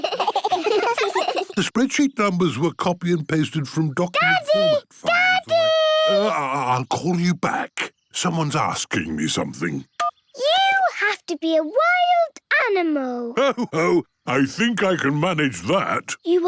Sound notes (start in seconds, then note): 0.0 giggling; 9.8 phone beeps